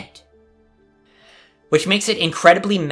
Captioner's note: inhale